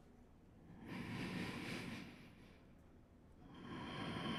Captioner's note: breathes